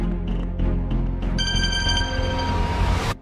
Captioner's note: phone ringing